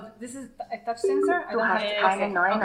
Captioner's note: device chimes